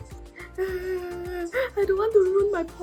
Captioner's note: whines